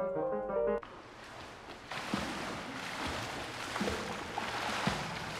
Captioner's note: water splashing